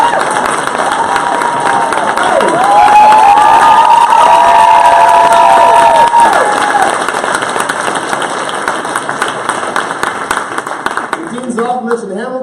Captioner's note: applause